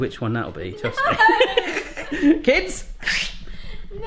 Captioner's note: laughs